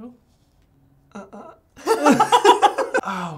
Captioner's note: both laughing